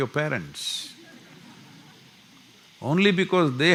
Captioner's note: laughter